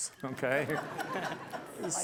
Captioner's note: laughter